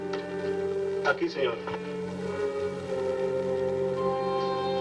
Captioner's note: speaking spanish